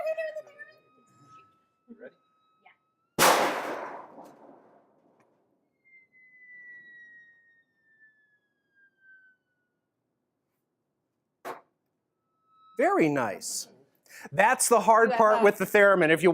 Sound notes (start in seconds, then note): 3.2 thunder - Theremin - muffled bang